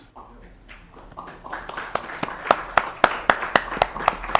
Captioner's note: applause